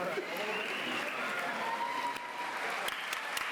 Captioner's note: applause